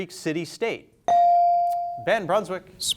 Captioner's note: bell sounding